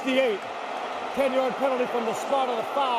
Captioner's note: booing